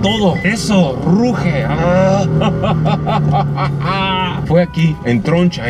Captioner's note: laughter